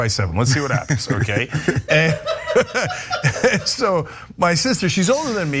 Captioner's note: laugh